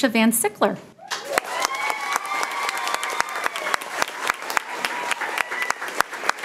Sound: crowd cheering and clapping

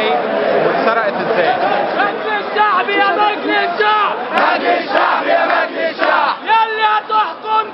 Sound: chants

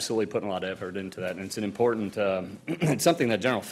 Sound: clears throat

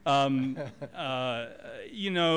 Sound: laughter

